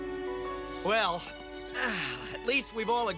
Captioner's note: sighs